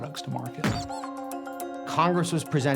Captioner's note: doll squeaking sound